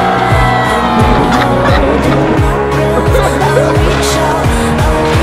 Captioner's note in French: rire